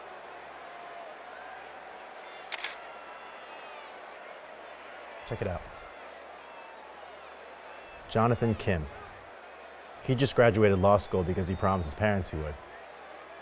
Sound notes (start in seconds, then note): 2.5 camera shutter